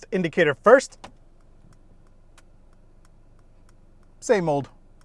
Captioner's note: indicator clicking